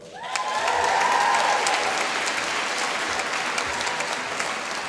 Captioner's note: applause